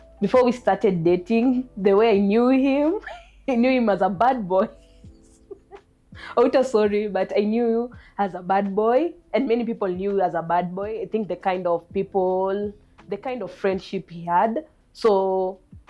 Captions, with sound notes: Before we started dating, the way I knew him, I knew him as a "bad boy"! (Laughing) Outa, sorry, but I knew you as a "bad boy'', and many people knew you as "bad boy". I think the kind of people, the kind of friendships he had. So...